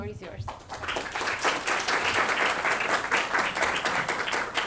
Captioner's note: students applauding